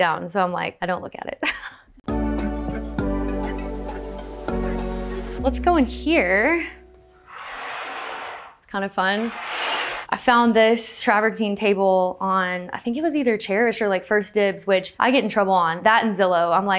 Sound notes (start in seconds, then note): 2.1 upbeat music; 7.2 curtain track rattles